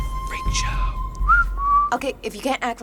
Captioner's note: whistles